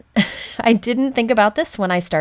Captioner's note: chuckles